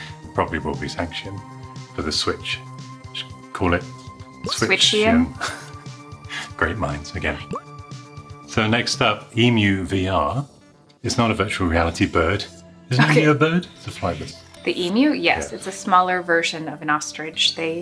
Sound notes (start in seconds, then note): 5.0 chuckles